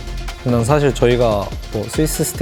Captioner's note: BuZz